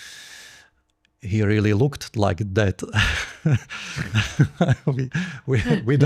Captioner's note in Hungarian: nevetés